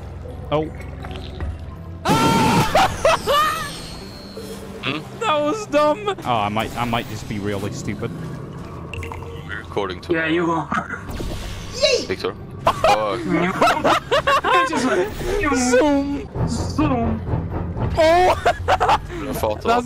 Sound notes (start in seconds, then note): 2.0 keemstar screaming and drowning; 2.1 laughing; 11.8 granny yeet sound effect; 18.1 laughter